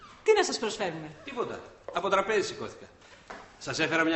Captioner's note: none